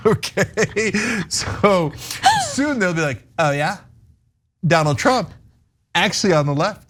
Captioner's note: laugh